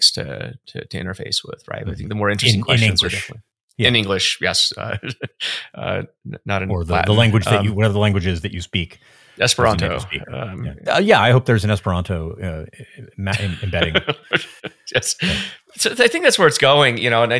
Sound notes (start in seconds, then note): 4.2 chuckles; 12.8 laughing